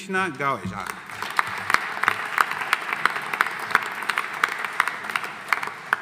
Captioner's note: audience applauding